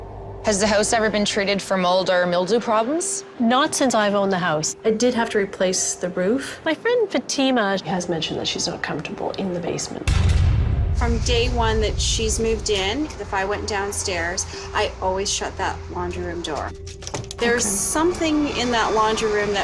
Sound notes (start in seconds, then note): 10.0 music stabs; 16.6 door clatters